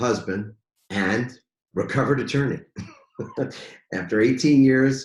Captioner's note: laughs